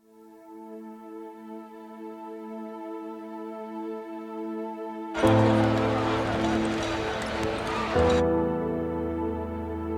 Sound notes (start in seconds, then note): 5.1 crowd chanting